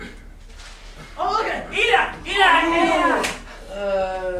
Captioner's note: shouting in grammelot